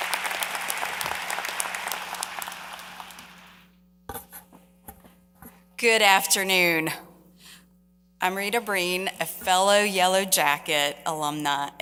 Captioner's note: applause